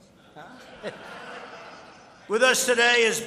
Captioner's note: laughter